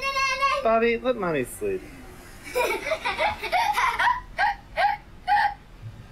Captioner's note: laughs